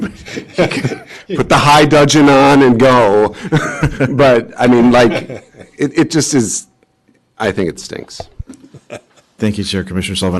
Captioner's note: laughter; laughter